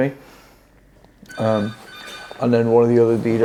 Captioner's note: phone rings